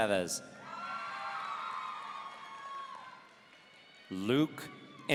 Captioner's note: audience cheering